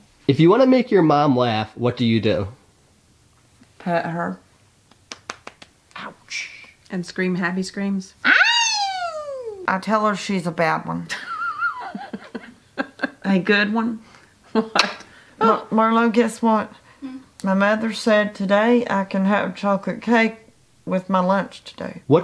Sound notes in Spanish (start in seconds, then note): 8.2 Grito feliz; 11.1 Mamá se ríe